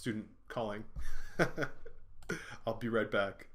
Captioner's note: chuckling